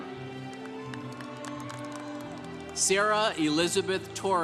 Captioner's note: congregation cheering